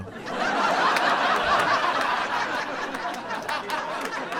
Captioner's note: audience laughing